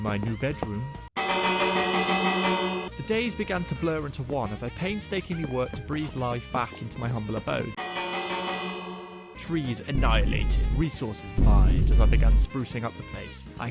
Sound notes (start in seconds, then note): 1.0 THE SOUND OF INSTANT REGRET, and a bell; 7.8 the CONTINUED SOUNDS OF INSTANT REGRET, and the bell